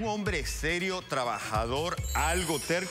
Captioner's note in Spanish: none